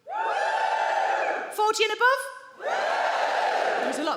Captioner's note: crowd members cheer